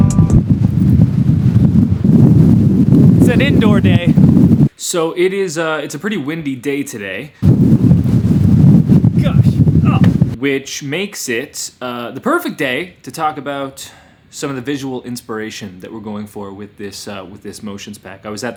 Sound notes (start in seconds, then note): 0.0 wind howling